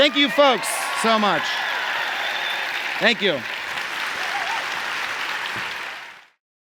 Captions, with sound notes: Thank you, folks, so much. Thank you. [Applause]